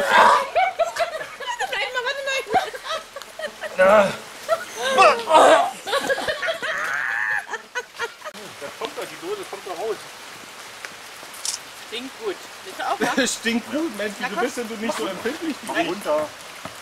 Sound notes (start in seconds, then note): 6.5 laughter becomes evil